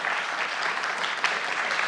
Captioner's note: applause